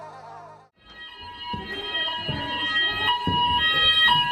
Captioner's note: alarm blaring